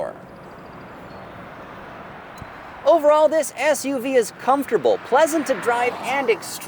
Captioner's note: car passing